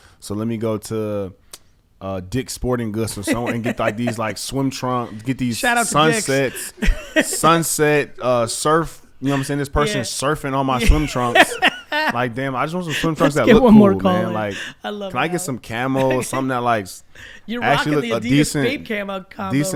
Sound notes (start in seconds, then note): 3.1 laughs; 7.5 laughs; 12.8 laughs